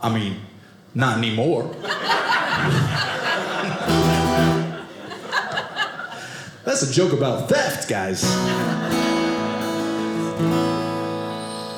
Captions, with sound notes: I mean, not anymore. (audience laughing) (guitar playing) That's a joke about theft, guys. (audience laughing) (guitar playing)